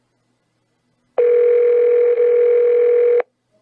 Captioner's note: phone rings